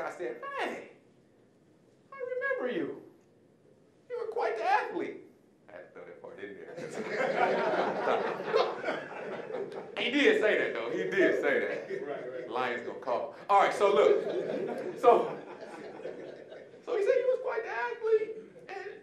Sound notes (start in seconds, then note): 6.7 audience laughing; 13.8 audience laughing